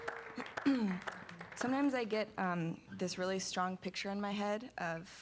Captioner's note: se aclara la garganta